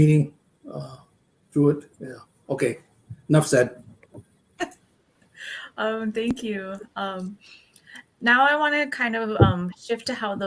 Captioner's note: laughs